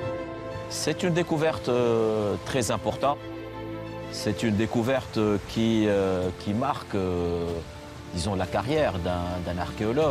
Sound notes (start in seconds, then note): 0.9 speaking foreign language